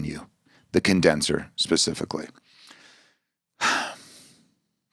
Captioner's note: sighs